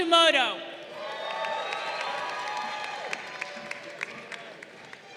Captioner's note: crowd cheering